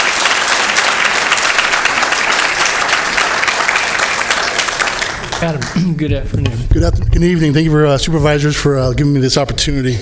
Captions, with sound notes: NOT DRIVE THE PLEASE, SIR WAY FROM THE AGENCY AND ALLOW THE FROM THE AGENCY AND ALLOW THE AGENCY TO CONTINUE TO DO ITS AGENCY TO CONTINUE TO DO ITS JOB. JOB. THANK YOU. [APPLAUSE]